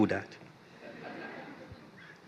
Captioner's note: laughter